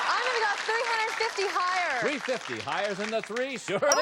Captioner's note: applause